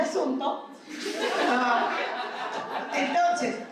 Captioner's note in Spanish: risas